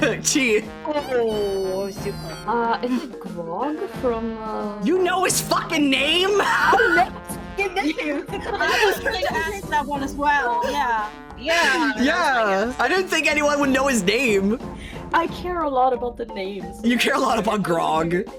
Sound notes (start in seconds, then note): 0.0 laughing; 6.4 wheeze Laugh